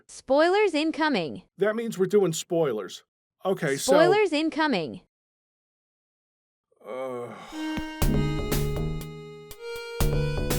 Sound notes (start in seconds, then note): 6.8 sigh